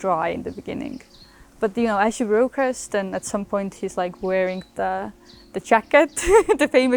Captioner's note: laughs